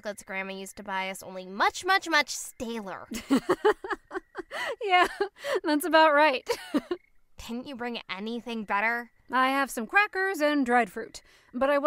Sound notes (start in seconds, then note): 3.1 laughs